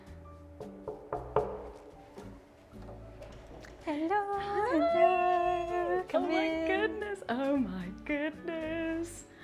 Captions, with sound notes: (door knocking) - Hello, hello. - Hi! - Come in. - Oh my goodness, oh my goodness!